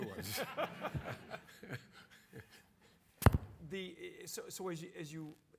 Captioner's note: audience laughing